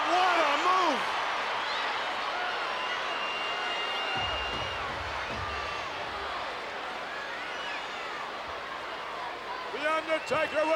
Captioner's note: applause